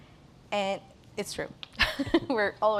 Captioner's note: laughs